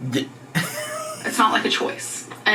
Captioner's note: laughs